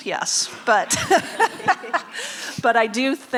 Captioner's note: laughing